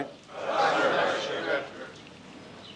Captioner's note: crowd agreeing